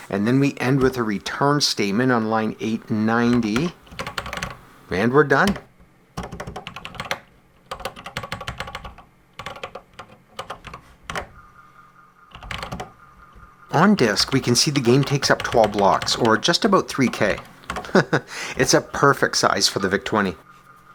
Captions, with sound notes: and then we end with a RETURN statement on line 890… and we're done! [typing on a C64 keyboard] On disk we can see the game takes up 12 blocks, or just about 3K. [chuckles] It’s a perfect size for the VIC-20.